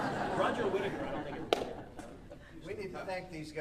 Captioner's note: audience laughing